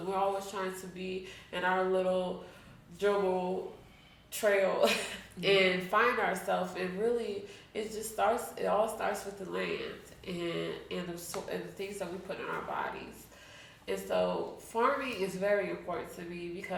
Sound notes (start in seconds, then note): 4.4 chuckles